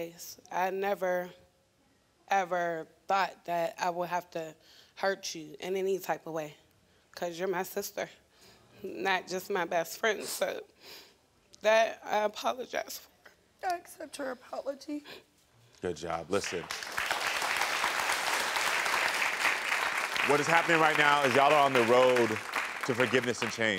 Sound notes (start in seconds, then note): 16.4 audience applauding